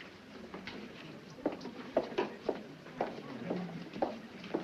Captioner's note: people chattering